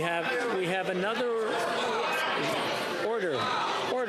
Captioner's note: yelling